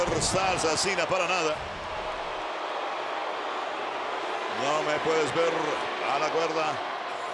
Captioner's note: applause